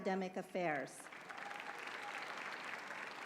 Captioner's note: applause